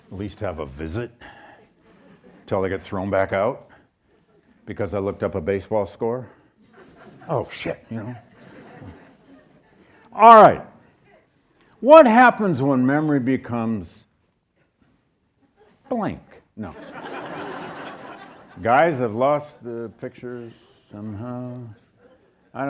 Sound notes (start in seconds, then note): 8.2 audience chuckles; 16.7 audience laughs